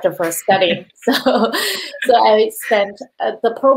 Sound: both laughing

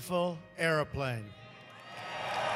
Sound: cheering and applause

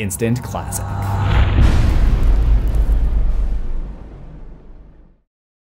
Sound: impact

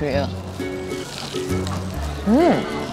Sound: crunch crunch

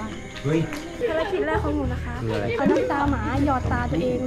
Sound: laughs

